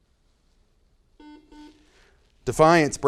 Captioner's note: buzzer noise